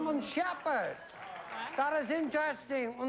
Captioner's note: german accent